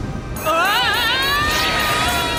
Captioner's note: yelling